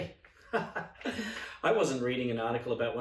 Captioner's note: laughing